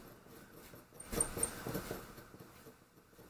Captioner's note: scratching sound!